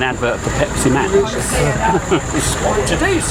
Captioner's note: laugh